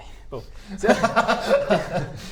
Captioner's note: relieved laugh